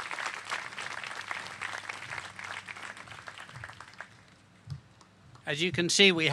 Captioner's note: applause